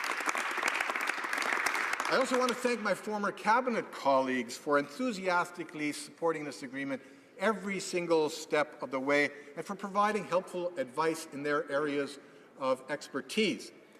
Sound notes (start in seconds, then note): 3.1 applause